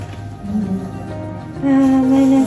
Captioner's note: disappointed